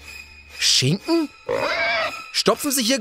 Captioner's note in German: Dramatische Musik; Ängstliches Quieken